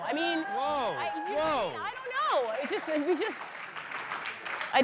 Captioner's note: applause